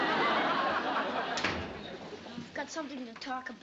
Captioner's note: door bang